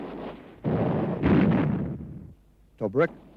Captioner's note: explosion